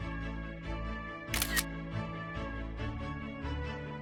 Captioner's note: camera shutter sound